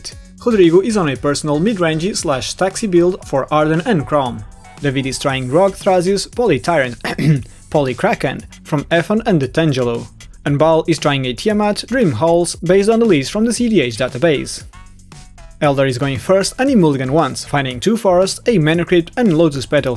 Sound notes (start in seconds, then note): 7.0 ahem